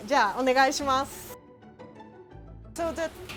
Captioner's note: speaking in foreign language